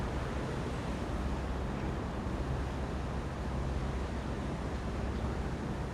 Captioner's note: waves whooshing faintly